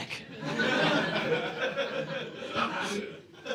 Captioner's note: audience laughing